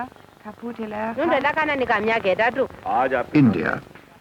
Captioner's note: non-English speech